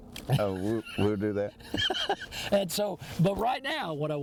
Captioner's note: laughs